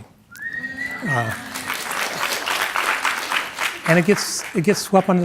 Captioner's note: audience whistling and clapping